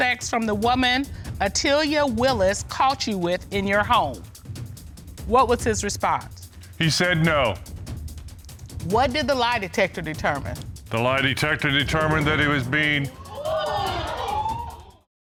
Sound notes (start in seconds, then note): 13.1 audience gasps